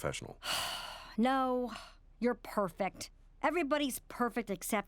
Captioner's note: sighing